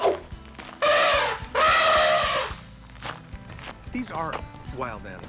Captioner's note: elephant trumpeting